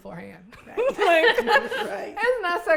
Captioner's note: all laughing